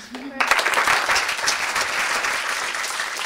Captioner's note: applause